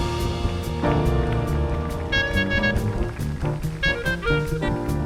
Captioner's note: audience applauding